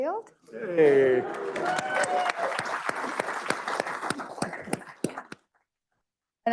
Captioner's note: applause